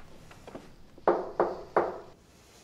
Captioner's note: repeated knocking